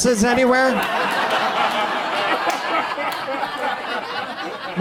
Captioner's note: audience laughs